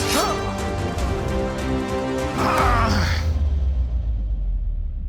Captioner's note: swords clanking; both moaning; dramatic music